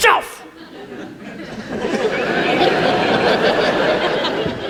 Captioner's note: audience laughs